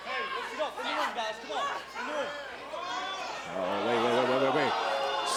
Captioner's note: crowd chatter